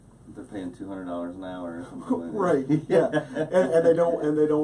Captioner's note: laughing